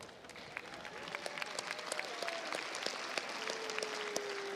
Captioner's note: crowd applauds